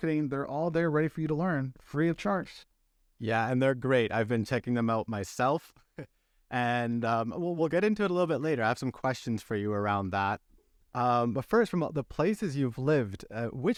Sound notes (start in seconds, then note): 6.4 laughter